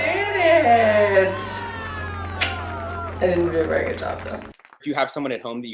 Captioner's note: applause